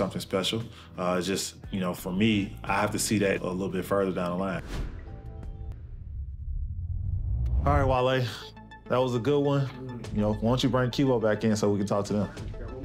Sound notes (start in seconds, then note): 4.0 rumble echoes; 4.6 graphics whoosh